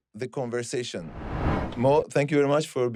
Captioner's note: screen whooshing